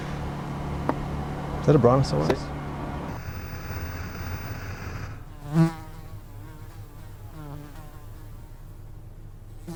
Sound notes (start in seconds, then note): 3.0 static crackling; 5.5 flies buzzing